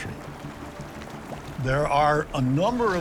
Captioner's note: ominous music; waves rippling